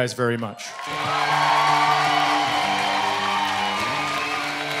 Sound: cheering and applause

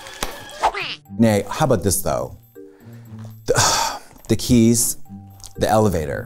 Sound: sighs

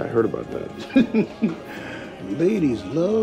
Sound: laughs

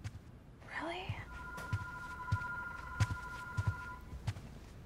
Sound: loud ringing

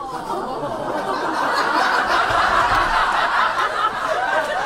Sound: audience laughs

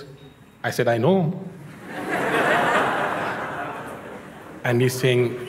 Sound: laughter

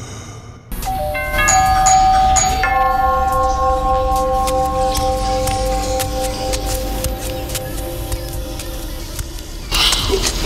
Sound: heavy breathing; bells, footsteps, creepy voices

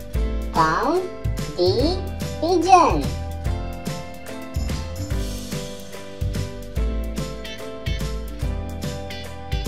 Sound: pigeon Sound

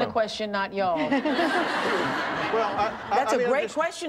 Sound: all laughing

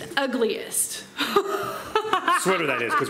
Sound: laughing

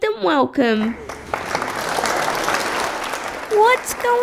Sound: clapping

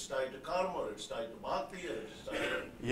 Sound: non-english

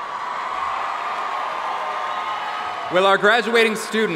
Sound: audience cheering and applauding

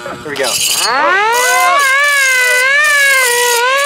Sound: siren

